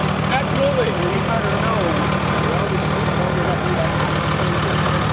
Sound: truck engine vibrating

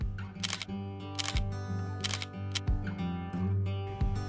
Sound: camera shutter

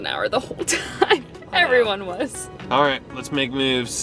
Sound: laughs

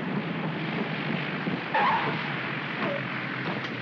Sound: wheels chirp; aircraft rumbles softly

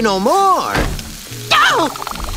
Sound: door slams

